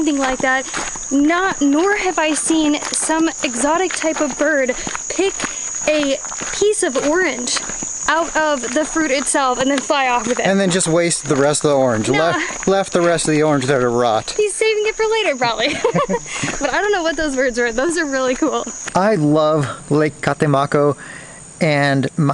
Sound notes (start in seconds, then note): 15.6 laughs